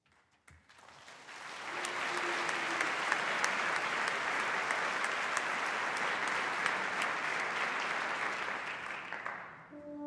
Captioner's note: applause